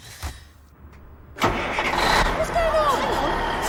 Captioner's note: engine starts